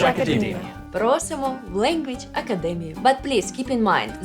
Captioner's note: in Ukrainian